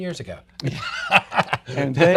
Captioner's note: laughs